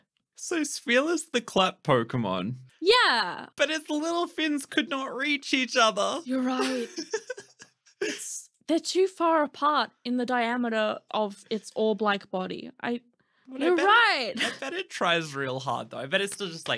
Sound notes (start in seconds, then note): 6.5 laughing